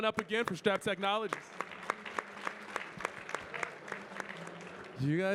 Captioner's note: audience clapping